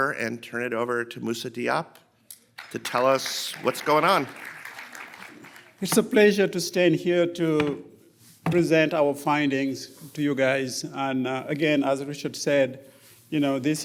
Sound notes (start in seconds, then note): 4.6 audience applauding